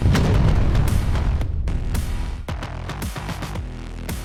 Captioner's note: thud